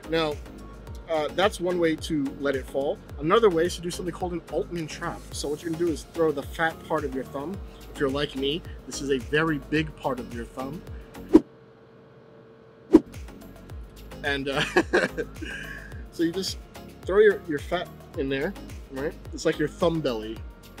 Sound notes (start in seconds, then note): 12.9 air whooshing; 14.6 laughs